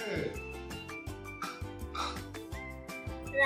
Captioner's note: Big Pig snorts